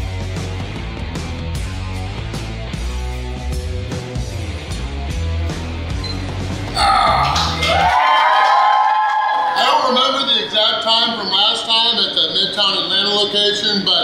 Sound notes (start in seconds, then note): 6.0 timer beeps; 6.8 crowd cheers